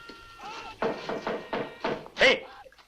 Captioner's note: knocking